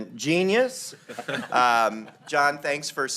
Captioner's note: laughter